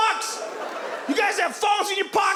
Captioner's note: audience laughs